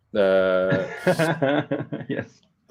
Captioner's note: laughter